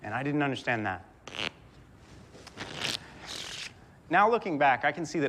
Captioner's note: riffling cards